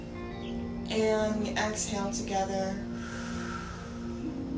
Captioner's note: exhales